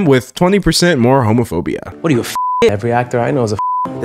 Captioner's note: beep